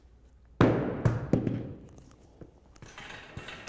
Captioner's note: loud thump